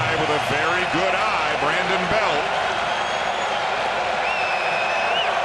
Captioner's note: cheering and Applause